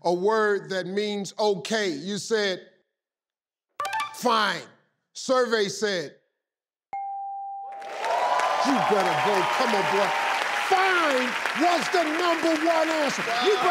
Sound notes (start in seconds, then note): 6.9 bell dings; 7.7 audience applauds